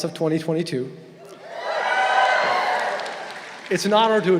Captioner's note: crowd cheering